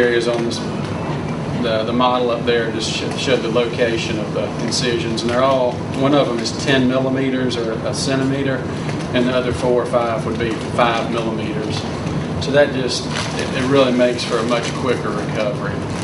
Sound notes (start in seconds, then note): none